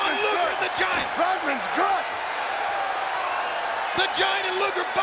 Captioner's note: audience cheering